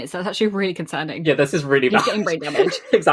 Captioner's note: laughing